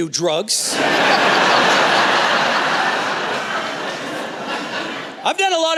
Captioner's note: laughter